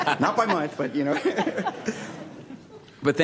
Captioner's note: laughter